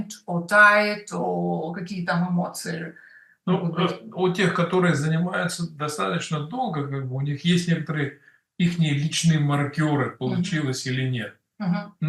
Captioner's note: Russian